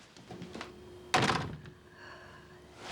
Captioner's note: slam